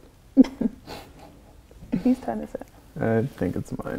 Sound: both chuckle

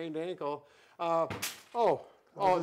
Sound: Booyah Stik drops

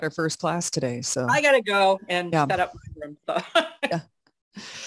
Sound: laughs

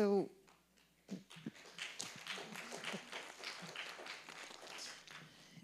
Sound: audience clapping

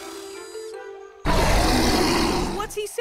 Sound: roaring

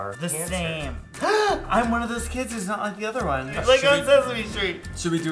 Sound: gasps

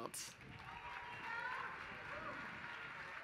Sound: applause

